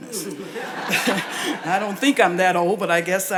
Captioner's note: audience laughs